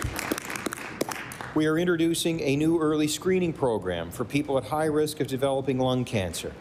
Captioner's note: applause